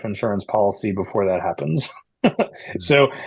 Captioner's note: chuckles